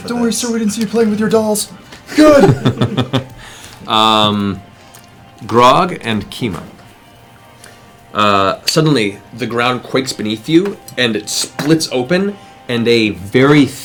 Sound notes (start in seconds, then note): 2.0 laughs